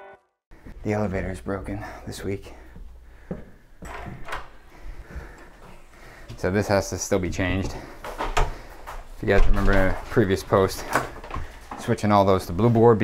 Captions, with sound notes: The elevator's broken this week. (door knob twisting) So this has to still be changed. You guys remember a previous post. Switching all of those to blue board